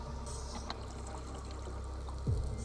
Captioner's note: underwater echoes